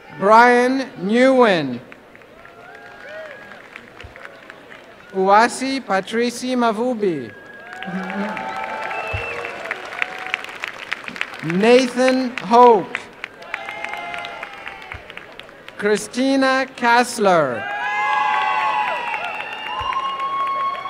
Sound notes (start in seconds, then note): 3.4 applause; 8.4 applause and cheering; 13.4 applause and cheering; 17.5 applause and cheering